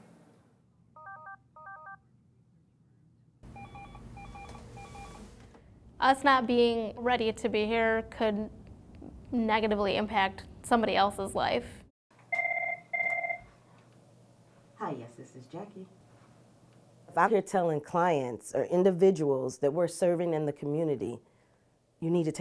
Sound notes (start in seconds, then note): 1.0 phone rings; 3.4 phone rings; 12.3 phone rings